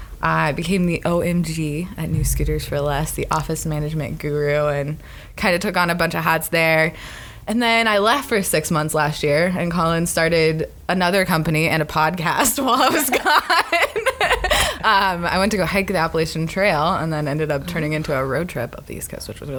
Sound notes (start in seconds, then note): 12.8 laughs